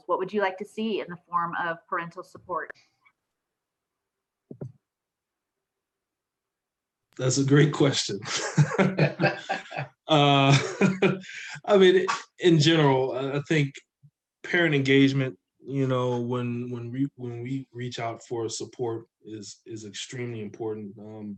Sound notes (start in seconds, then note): 8.5 laughs